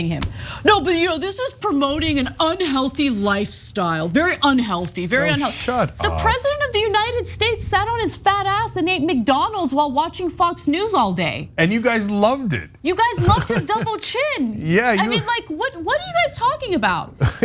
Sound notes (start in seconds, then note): 13.0 laugh